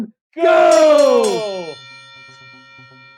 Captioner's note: bell ringing